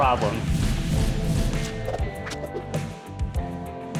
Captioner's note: words whoosh